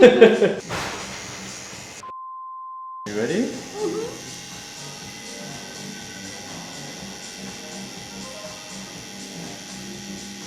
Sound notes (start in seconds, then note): 0.0 chuckling; 0.6 thunder crashing; 5.3 tattoo needle buzzing